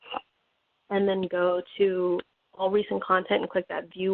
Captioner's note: scrolling